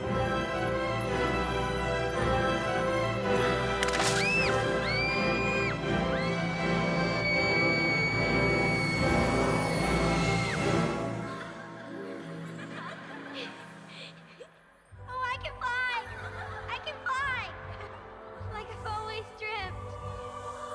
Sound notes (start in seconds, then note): 3.7 branch cracks; 4.2 screams; 11.2 snowflakes giggling